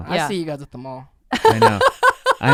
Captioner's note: laughs